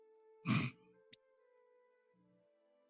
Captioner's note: laughing snort